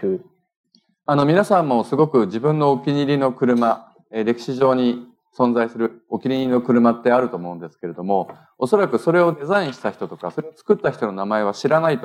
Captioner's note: speaking japanese